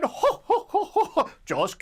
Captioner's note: laughs